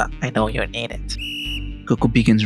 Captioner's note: whistle